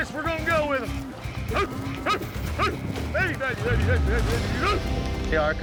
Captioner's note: yelling